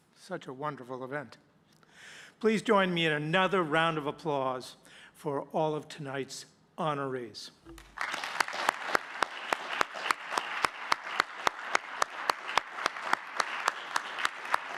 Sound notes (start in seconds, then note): 7.7 audience clapping; 7.7 clapping